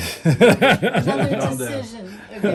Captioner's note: laughing